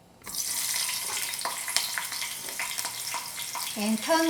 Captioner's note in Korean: 지지직 소리